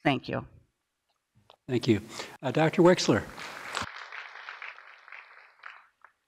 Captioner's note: applause